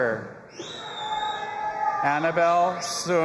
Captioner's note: audience applauding and cheering